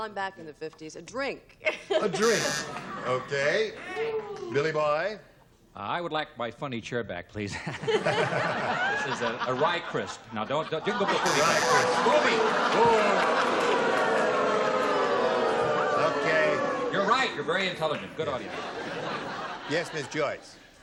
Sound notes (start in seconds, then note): 2.2 buzzer; 7.9 laughter; 13.6 booing; 17.8 laughter